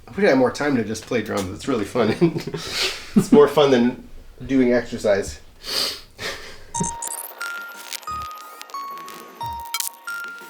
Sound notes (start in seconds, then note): 6.2 chuckles; 6.7 soft electronic music